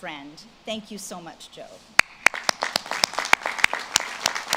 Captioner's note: audience claps